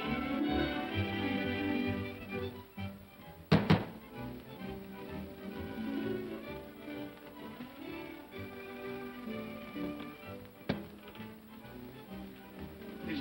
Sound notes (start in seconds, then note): 3.5 knocking on door; 5.3 upbeat music